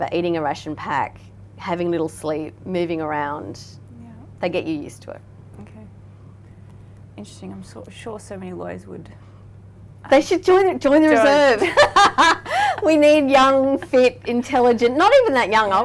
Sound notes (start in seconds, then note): 11.1 laughing